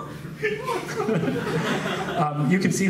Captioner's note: laughs